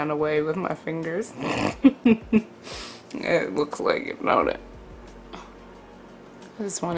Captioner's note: snorts and laughs